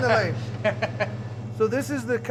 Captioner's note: laughter